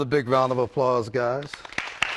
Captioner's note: applause